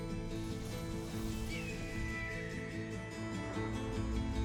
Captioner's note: hawk screeches